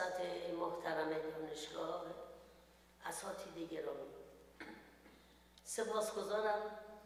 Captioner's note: speaks in foreign language